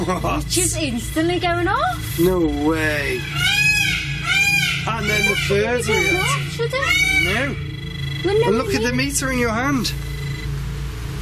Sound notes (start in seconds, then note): 0.0 device beeps; 2.3 peacock squawks; 8.2 device beeps